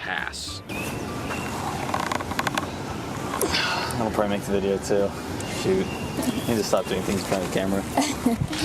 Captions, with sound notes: - Pass. [bones creaking] - [gasps] That'll probably make the video too, shoot. [laughing] I need to stop doing things in front of the camera.